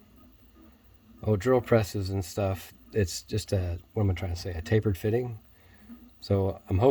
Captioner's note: whew!